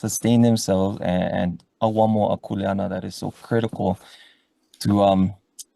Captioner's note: speaks foreign language